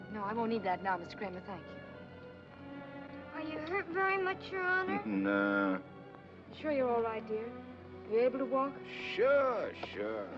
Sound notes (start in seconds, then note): 5.0 chuckles